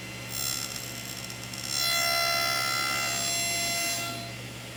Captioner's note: table-saw whining